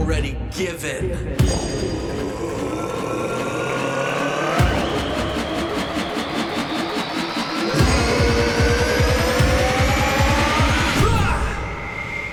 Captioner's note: yelling at each other